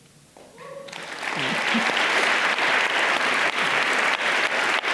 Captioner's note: audience applauding